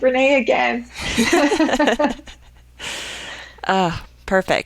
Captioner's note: women laughing